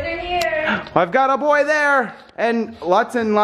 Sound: gasps

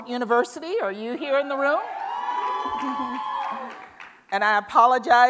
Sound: cheers and Applause

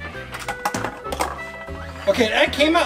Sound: machine drops egg

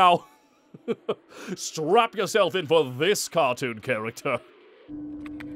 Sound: chuckle

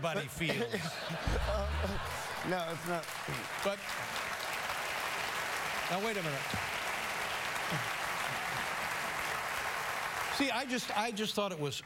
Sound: laughter; applause

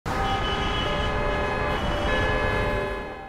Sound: horns blaring

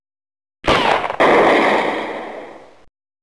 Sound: explosion

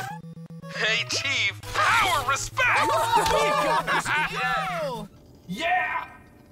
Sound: cheering

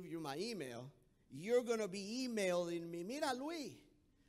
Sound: speaking in foreign language

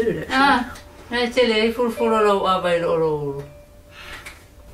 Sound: speaking in Samoan

